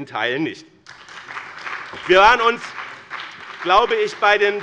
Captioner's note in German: Beifall bei dem BÜNDNIS 90/DIE GRÜNEN und der CDU